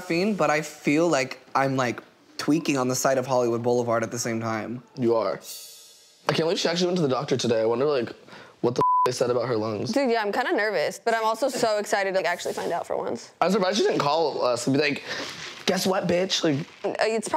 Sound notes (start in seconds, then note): 8.8 beeps